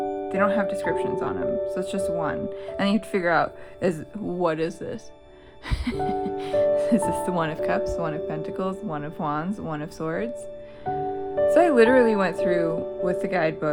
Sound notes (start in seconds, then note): 5.6 laugh